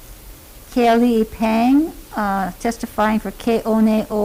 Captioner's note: speaking Hawaiian language